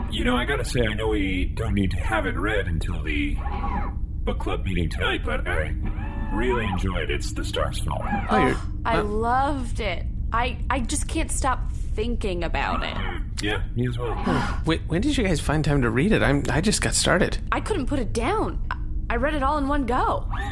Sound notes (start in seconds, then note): 7.9 gasps